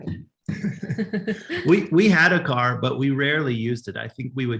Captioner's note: laugh